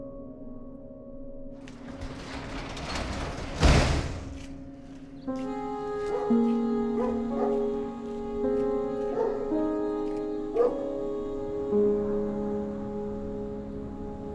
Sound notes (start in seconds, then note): 1.6 garage door closing; 4.7 soft piano music